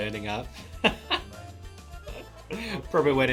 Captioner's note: laughing